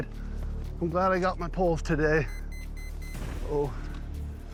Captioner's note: GPS beeping